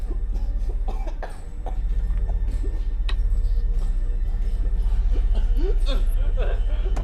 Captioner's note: gentle tense music; victim whimpering